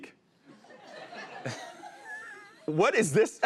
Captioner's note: laughter